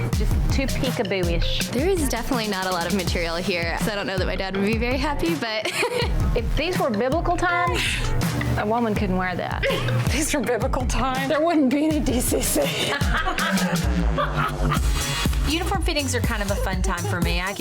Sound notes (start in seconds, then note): 5.6 laughs; 12.8 laughing; 13.9 energetic music